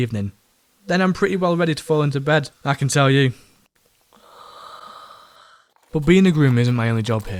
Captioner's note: snoring